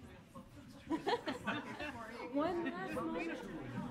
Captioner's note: laughing